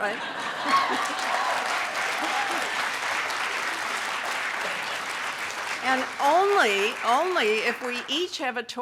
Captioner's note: laughs; audience clapping